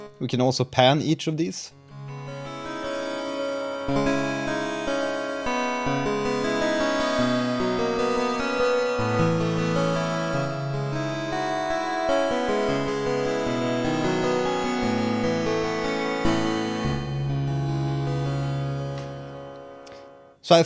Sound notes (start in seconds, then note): 5.3 panned layered bell sound